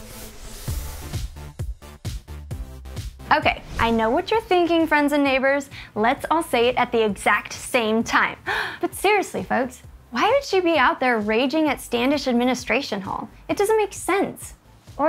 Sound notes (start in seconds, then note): 0.2 upbeat music; 8.5 gasps